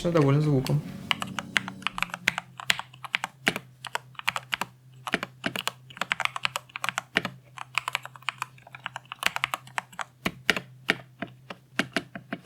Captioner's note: Keyboard typing